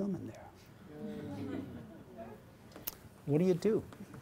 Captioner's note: audience groans, chuckles